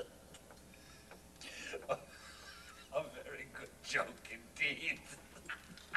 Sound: Fortunato laughs

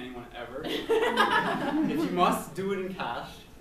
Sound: laughs

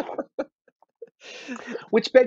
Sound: laughter

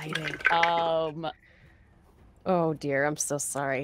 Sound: dice clatter

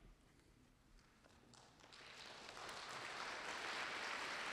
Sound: applause

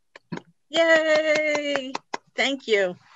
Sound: claps

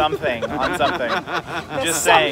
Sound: laughter

